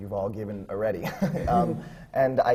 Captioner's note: laughs